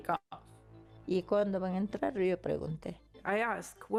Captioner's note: speaking in foreign language